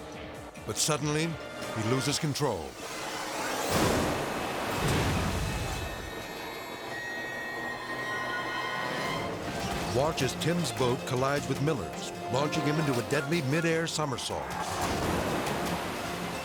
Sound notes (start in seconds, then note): 3.8 impact pounds; 3.8 tense dramatic music; 14.4 water splashes